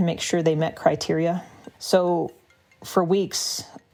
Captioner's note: cell phone ringing and vibrating